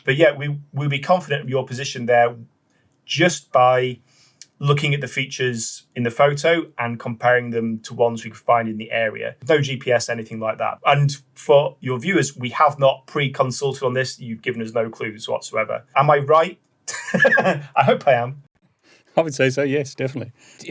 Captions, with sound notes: But yeah, we'll be confident of your position there just by looking at the features in the photo and comparing them to ones we could find in the area. No GPS, anything like that. And for your viewers, we have not pre-consulted on this. You've given us no clues whatsoever, am I right? (laughs) I hope I am. - I would say so, yes, definitely.